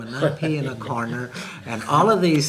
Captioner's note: laughs